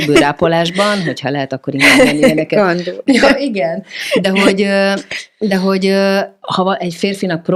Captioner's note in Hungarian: nevetés